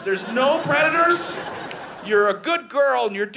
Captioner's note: audience laughing